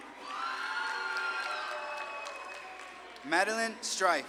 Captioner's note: audience claps and cheers